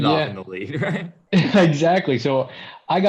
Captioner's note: laughter